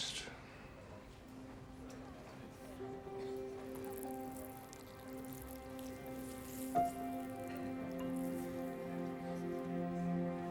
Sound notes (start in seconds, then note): 0.1 melancholic music plays; 3.6 urine trickling